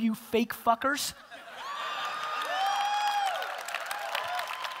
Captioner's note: audience cheering